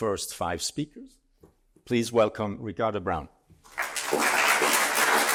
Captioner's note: applause